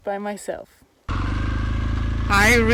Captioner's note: engine rumbling